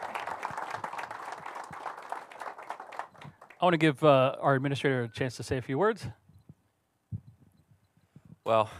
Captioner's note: applause